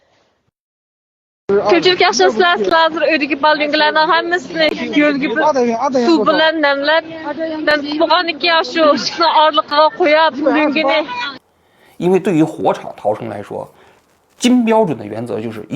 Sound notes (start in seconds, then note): 1.4 in Uyghur